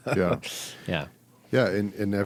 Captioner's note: laughs